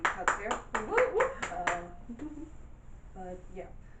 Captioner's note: audience clapping